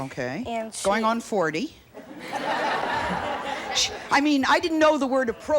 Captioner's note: audience laughs